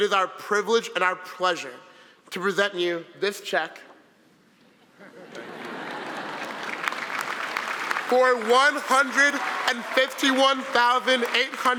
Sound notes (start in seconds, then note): 5.0 audience laughing; 5.5 applause